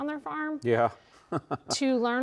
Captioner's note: laughs